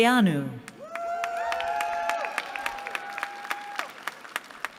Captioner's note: cheering